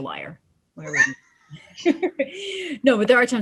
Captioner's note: laughs